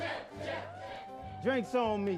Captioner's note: cheering